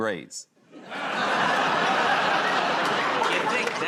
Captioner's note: laughter